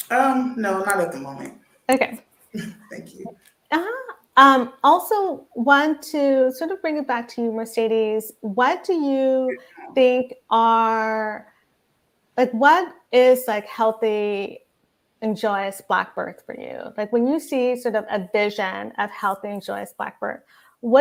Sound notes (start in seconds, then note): 2.6 chuckles